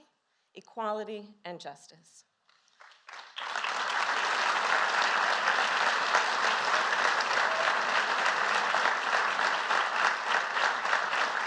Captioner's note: applause